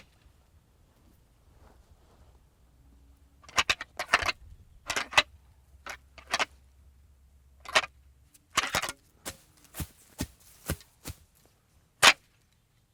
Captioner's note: deer antlers rattling